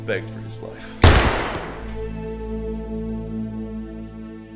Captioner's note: gunshot blasts